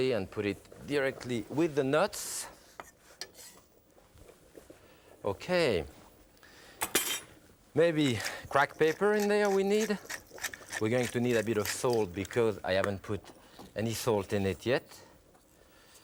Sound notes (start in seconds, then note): 3.2 knife scraping; 6.9 knife clinks; 10.1 pepper cracking